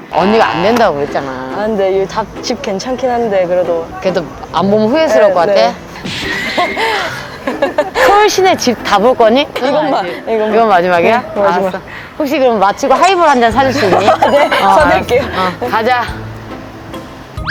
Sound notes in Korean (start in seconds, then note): 6.3 하아